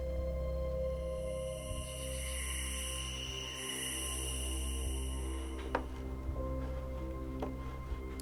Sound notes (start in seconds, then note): 1.2 insects chirping